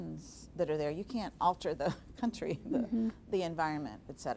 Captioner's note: laughing